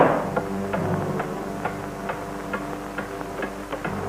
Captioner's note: hammering loudly